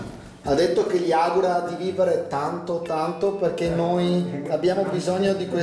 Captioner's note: speaks dialect